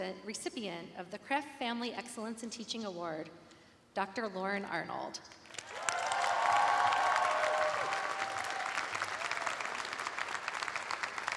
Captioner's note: cheers and applause